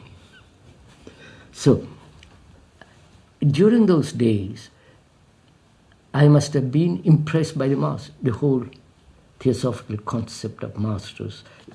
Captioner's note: laughs